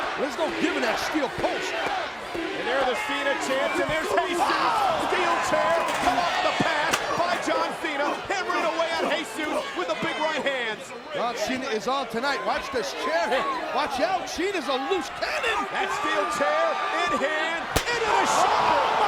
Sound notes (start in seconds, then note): 5.5 steel chair rattling; 9.1 blows thudding; 9.1 crowd clamoring; 17.6 steel chair thudding